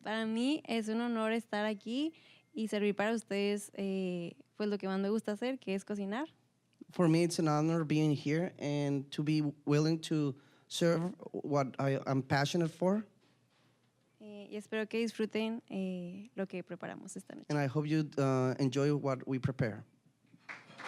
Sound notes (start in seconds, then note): 0.2 speaking Spanish; 14.7 speaking Spanish